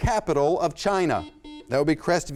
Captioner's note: buzzer sounds